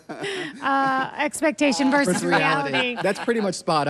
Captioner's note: laughs